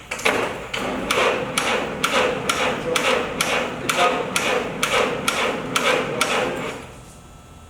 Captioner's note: Sound of 1502's engine cranking